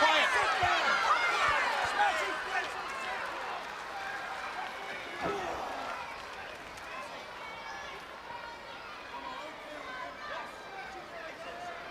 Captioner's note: crowd chatter